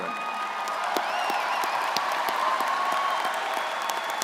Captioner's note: crowd cheering